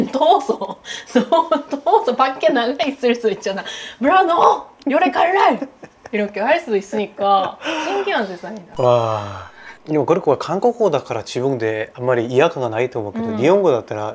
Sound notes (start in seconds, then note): 7.4 laughing tiredly